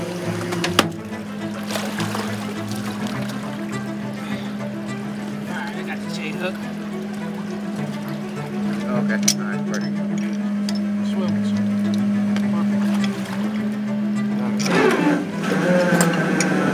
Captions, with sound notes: - All right, I've got the J-hook. (exciting music) (machinery screeching)